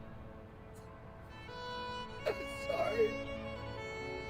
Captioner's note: weeping